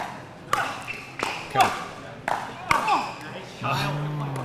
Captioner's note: grunting